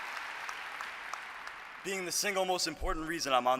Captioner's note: applause